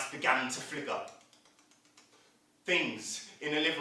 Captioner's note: sound of flickering